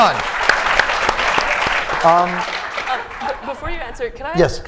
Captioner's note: applause